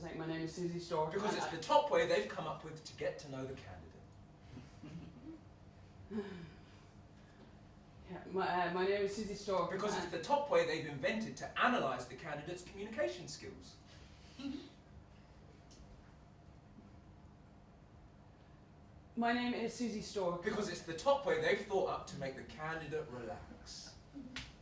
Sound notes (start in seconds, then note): 6.0 sighs